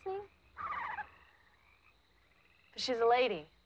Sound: Freckles cooing

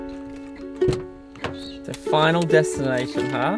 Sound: light music; door handle clicking

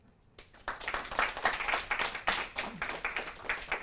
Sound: audience applauds

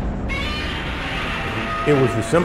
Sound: intense shrieking

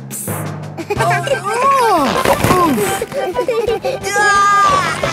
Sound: giggling; grunting; giggling

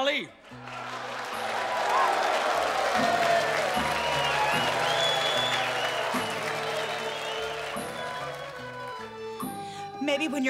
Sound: crowd cheering

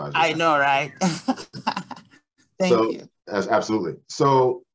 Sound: chuckles

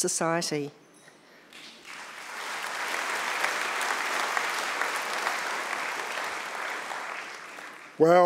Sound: audience clapping

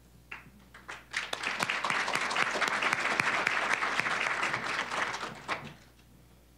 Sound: applause

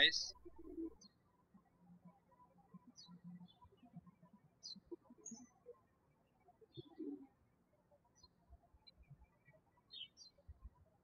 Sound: birds chirping

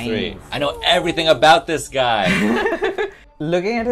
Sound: laughter

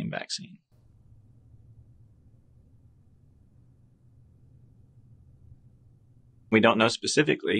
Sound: silence

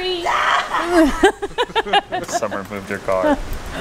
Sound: maniacal laughter; laughter

